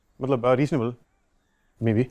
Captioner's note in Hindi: none